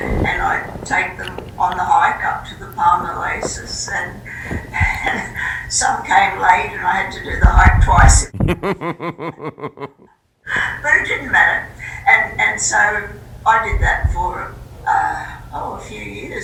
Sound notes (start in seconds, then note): 8.3 laughter